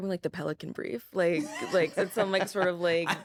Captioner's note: laughs